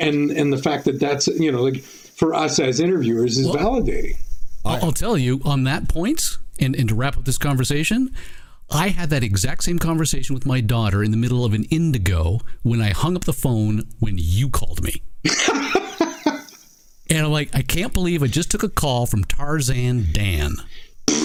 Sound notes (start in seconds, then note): 15.2 laughing